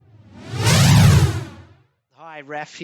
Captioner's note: air whooshing